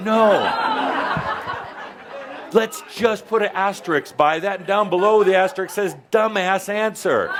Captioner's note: some chuckles